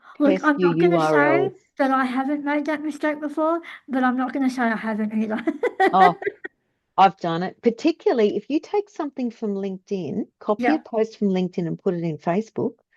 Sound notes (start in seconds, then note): 5.4 laughs